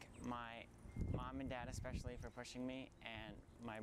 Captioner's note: none